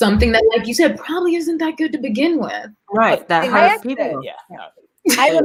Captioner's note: murmurs